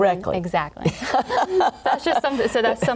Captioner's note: laughter